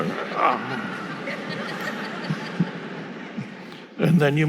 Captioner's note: audience laughing